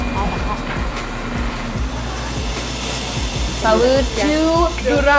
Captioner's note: liquid steaming; upbeat music